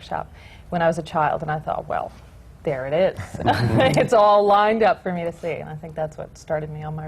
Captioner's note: laughter